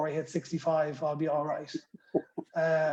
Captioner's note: laughter